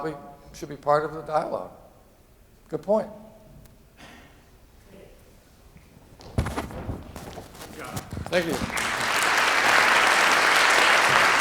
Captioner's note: applause